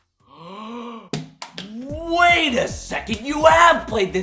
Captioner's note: gasps